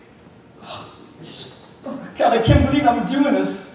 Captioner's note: nervously gasps